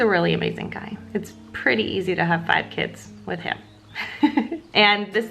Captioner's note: laughs